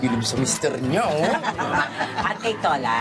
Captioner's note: laughter